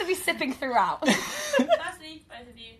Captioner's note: laughter